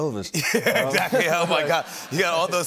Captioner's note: laughter